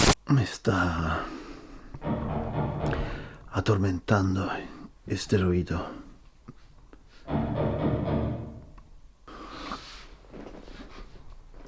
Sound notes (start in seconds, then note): 2.0 loud thuds in the distance; 7.6 loud thuds in the distance